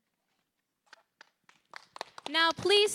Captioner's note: applause